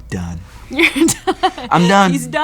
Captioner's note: laughing